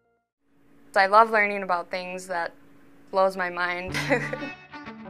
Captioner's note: laugh